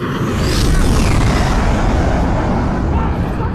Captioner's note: thunderous roaring of engines